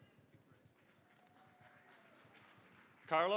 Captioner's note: applause